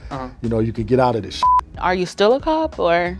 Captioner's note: beeping